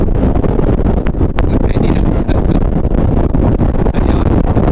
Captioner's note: laughter!